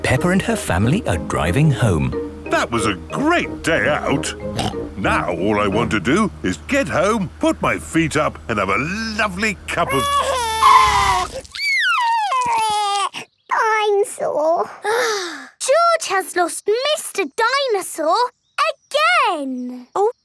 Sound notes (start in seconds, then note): 4.5 snorts; 9.8 crying; 10.2 tires screeching; 15.1 sighs